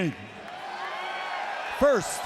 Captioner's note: audience cheers